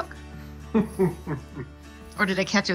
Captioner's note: laughs